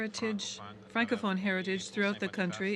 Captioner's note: speaking French